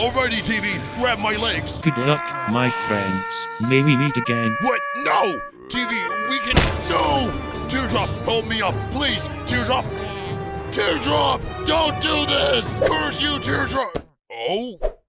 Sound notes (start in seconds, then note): 1.2 fallen soldier sirens